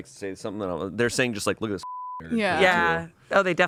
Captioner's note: beep